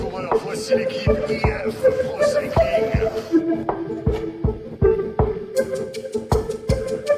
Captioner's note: announcer speaking foreign language